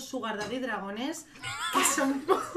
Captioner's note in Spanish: risas